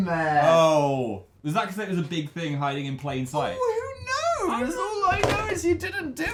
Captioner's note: mocking